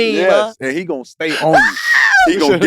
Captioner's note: Jay scream